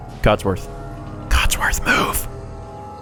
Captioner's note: whispers